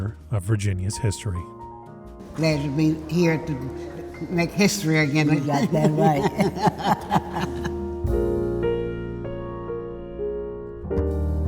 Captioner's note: laughter